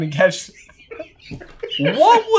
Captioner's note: laughing